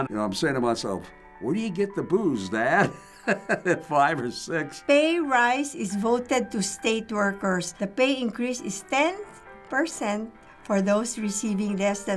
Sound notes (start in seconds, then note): 2.8 laughs